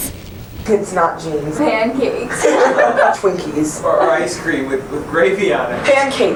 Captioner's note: laughter